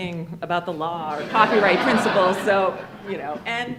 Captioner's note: attendees laughing